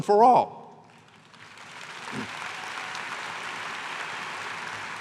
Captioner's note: cheers and applause